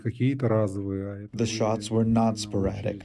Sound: through translator

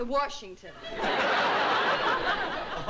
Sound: laughter

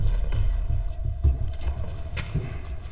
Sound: footsteps in other room

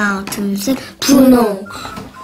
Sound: Korean

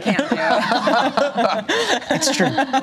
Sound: laughter

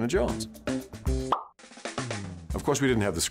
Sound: pop

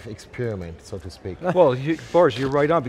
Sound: laughing

